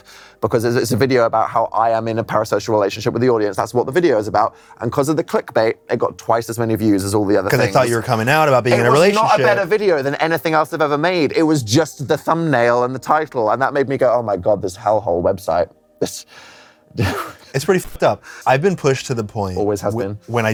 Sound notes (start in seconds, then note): 17.0 scoffs